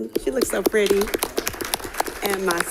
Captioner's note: applause